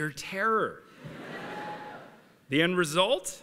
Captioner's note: laughter